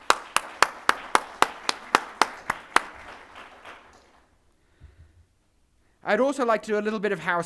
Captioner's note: audience clapping